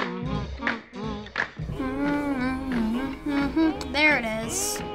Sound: humming along

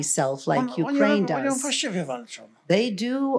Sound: foreign language

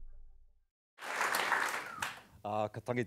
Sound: audience applause

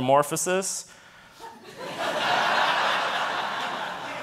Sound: audience laughing

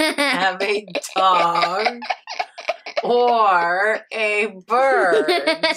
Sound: laughing

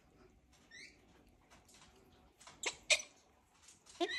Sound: bird squeaking

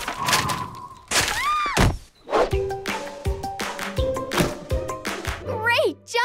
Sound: screams

